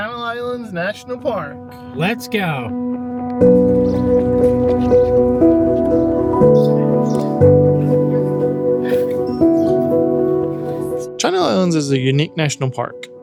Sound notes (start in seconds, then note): 3.4 birds chirping